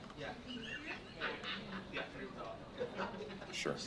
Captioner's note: murmuring